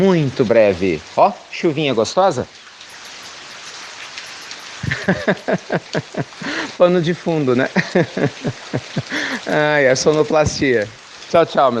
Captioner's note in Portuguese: Risos